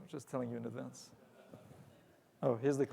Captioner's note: audience laughs